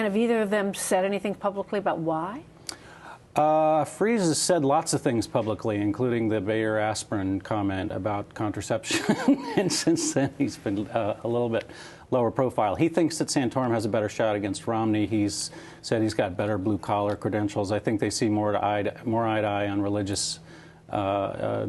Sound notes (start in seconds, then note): 8.9 laughter